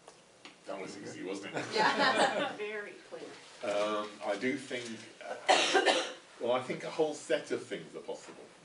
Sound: laughter

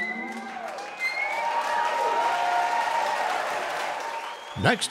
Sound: audience cheering and applauding

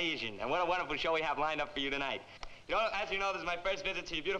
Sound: none

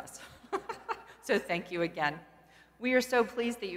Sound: laugh

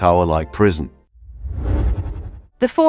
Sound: whoosh sound

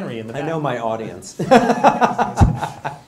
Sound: laughter

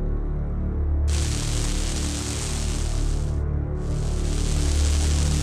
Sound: electrical sound

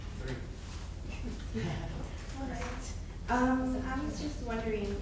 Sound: audience giggling

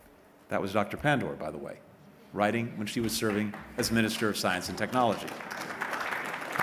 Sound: applause

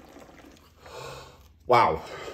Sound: gasps

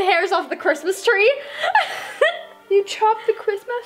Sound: laughing

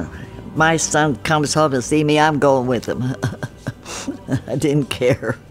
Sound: laughs

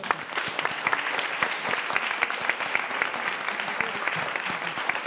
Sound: audience applauds

